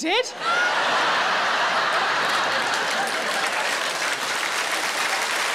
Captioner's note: audience laughing and applauding